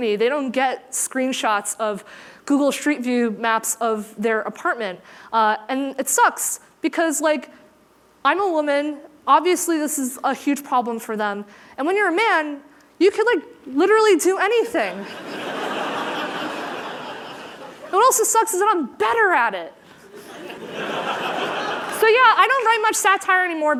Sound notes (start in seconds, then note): 16.2 laughter